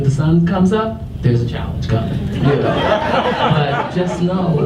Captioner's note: audience laughs